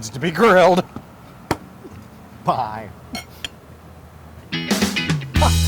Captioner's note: laugh